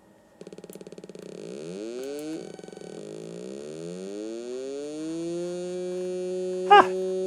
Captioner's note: More Pole Position noises